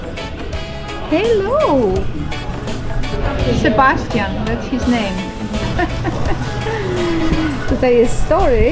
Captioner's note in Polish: śmiech